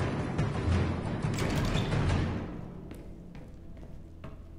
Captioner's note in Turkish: Kapı açılma sesi; Ayak sesleri